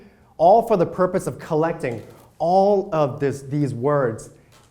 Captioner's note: none